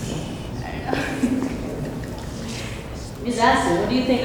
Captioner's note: crowd nervously laughs